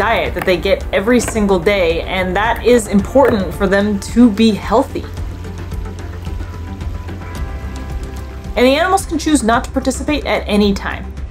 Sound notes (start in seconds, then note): 5.2 background music; 5.2 gentle water lapping noises; 11.1 background music